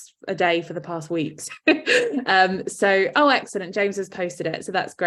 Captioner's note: chuckles